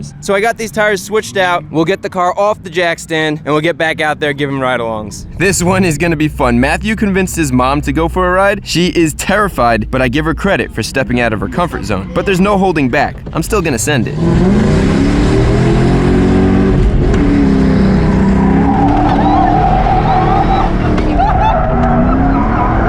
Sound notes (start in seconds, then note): 14.4 engine starts roaring; 21.0 mother screaming and laughing